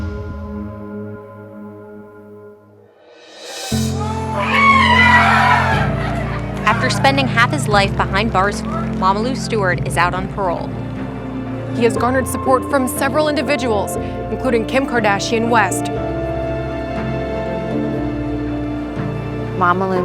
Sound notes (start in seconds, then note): 3.9 screaming; 16.4 slow music